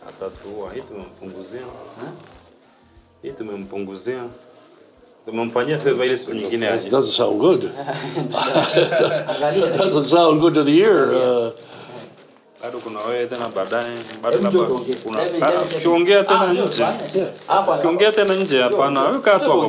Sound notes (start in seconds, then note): 7.8 nervous laughter; 13.9 speak Swahili